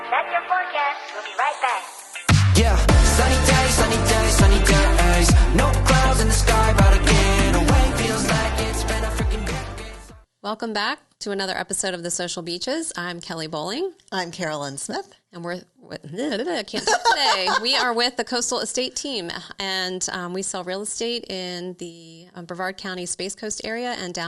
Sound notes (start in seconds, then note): 16.7 laughing